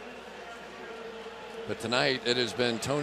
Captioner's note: pa announcement